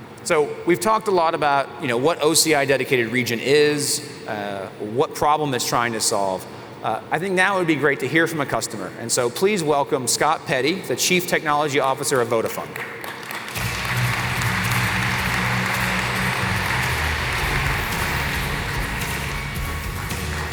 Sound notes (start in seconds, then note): 12.6 applause